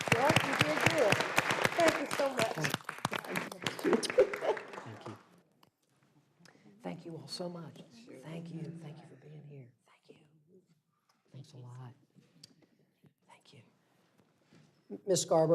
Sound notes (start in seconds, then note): 4.5 applause